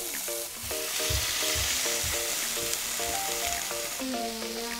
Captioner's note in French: Bruits de friture extrêmes